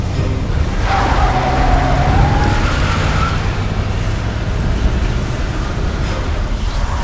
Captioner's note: tires screeching